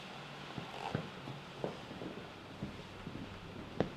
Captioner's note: footsteps thumping